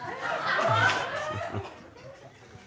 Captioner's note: audience laughing